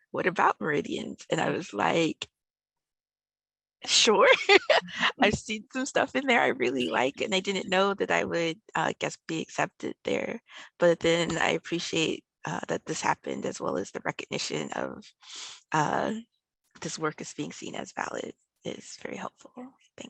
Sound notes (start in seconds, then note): 4.2 laughs